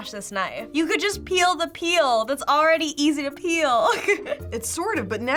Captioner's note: laughs